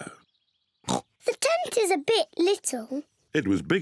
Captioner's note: oinks